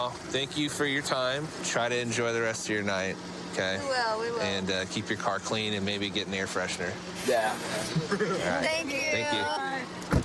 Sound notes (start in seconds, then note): 7.8 laughs